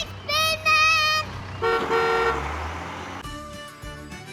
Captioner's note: honk! honk!